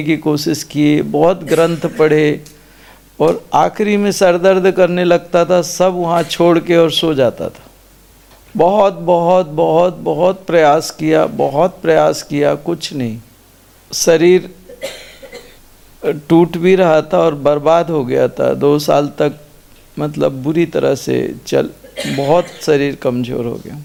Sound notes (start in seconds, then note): 7.0 coughing sound; 8.4 throat clearing sound; 17.5 throat clearing sound